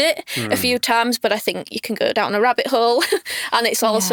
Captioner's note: chuckles